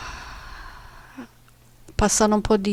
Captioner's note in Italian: sospiri